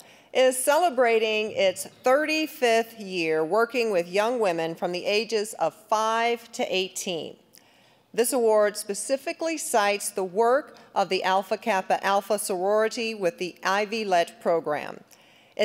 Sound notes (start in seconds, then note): none